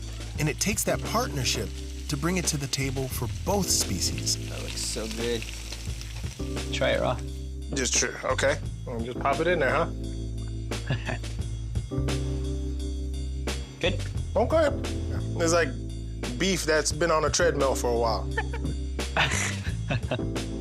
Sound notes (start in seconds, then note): 10.8 chuckles; 11.6 mellow music; 19.2 laughing